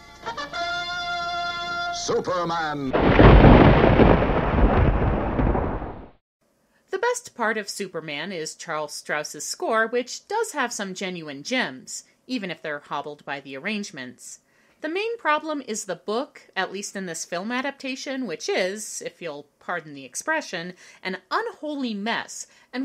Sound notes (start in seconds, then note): 0.1 trumpet; 2.9 thunder crashes